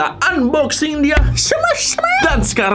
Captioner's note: squeaking